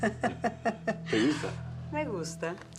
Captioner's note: Risas